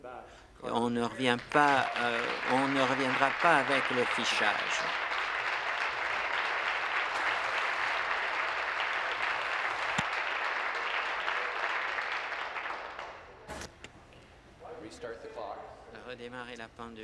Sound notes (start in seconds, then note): 4.5 applause